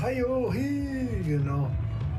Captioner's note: speaking indigenous language